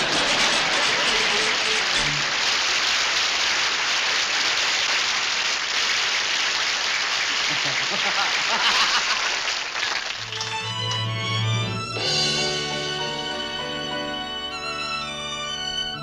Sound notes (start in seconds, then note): 0.3 audience applauds; 7.4 laughs